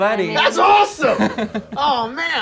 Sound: laughing

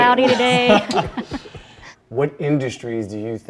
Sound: both laugh

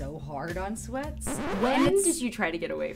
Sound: record scratching

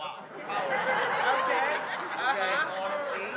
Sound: congregants laughing

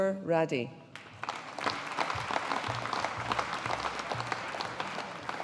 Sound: audience applauding

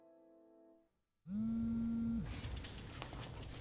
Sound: phone buzzes

